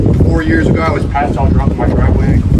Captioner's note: speaking faintly